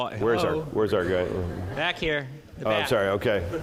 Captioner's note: laugh